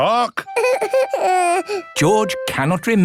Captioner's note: whimpers